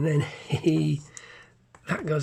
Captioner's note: laughs